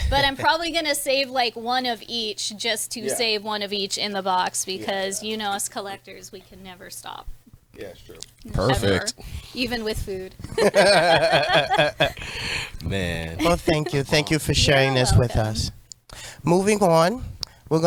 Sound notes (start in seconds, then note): 10.4 laughs